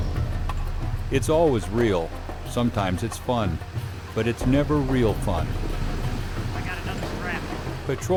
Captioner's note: voiceover